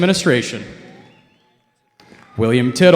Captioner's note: cheering